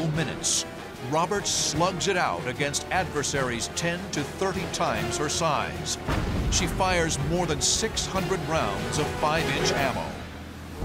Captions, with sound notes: Roberts slugs it out against adversaries 10 to 30 times her size. [explosion] She fires more than 600 rounds of 5-inch ammo.